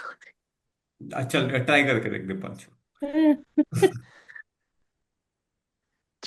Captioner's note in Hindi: हंसी